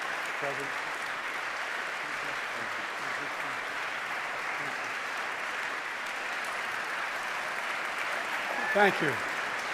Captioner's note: applause